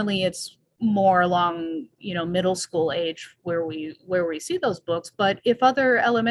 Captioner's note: none